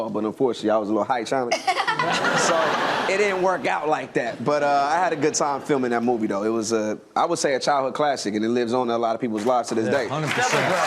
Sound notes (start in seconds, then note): 1.5 laughs; 10.0 audience claps and cheers